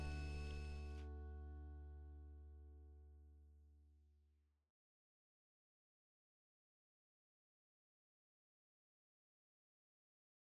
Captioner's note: no audio